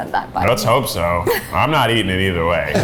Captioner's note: laughs